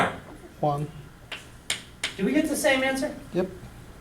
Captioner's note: voiceover